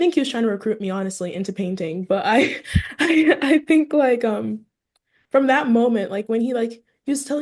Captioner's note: laughs